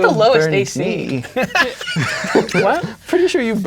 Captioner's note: players laughing